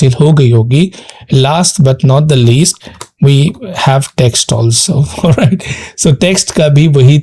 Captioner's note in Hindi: हंसी